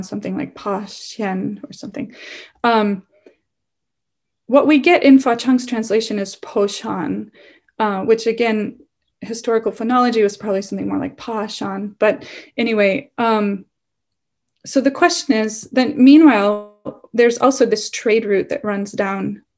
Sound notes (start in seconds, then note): 6.9 non-english; 11.1 non-english